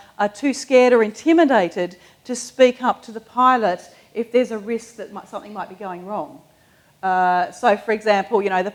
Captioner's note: none